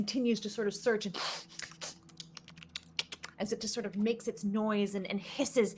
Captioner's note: sniffing